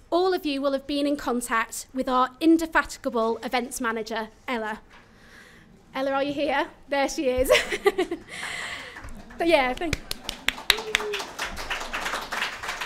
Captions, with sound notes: all of you will have been in contact with our indefatigable Events Manager, Ella. Ella are you here? There she is [chuckles]. [applause]